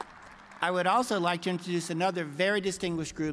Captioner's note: applause